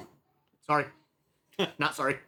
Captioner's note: laughing